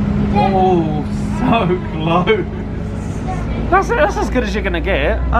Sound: laughs

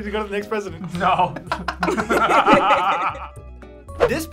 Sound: all laugh

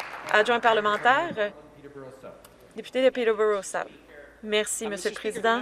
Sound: some Applause

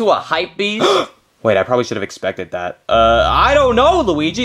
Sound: gasps

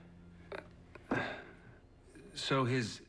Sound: sighs

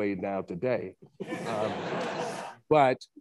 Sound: attendees laughing

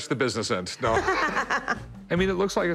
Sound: laughs

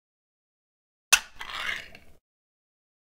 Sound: sound of can opening

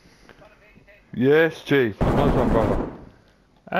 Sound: gun shots

